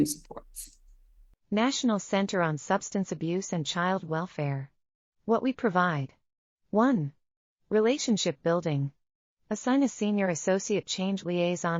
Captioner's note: audio Description being read